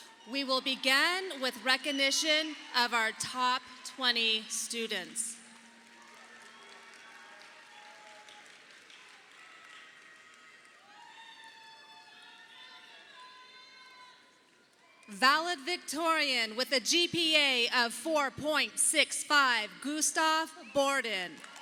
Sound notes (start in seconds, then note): 5.4 audience applauding